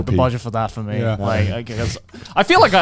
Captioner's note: chuckling